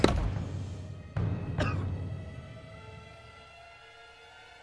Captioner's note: skateboard banging; The King coughing; suspenseful music